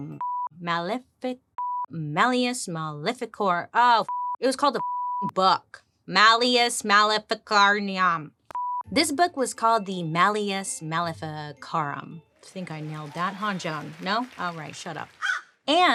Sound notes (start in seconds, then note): 4.0 beep; 15.2 Joan caws